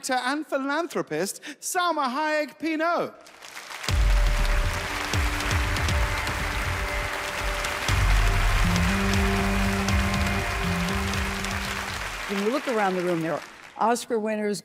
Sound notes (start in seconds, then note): 3.2 audience applauding; 3.8 dramatic music